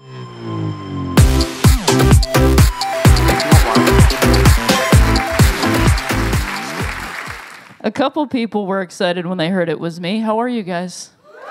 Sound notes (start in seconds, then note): 2.9 applause